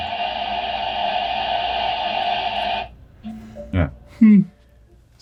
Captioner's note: water rushing